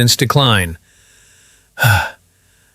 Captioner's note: sighs